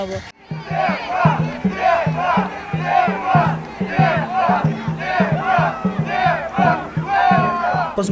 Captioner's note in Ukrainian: вигуки вболівальників